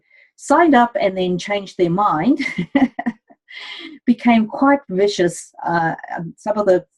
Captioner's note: chuckles